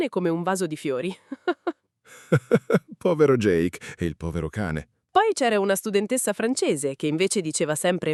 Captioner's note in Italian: risate